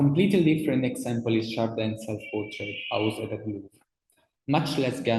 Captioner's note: speaks in foreign language